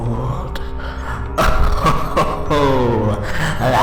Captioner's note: laughter